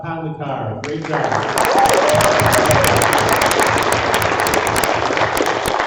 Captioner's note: applause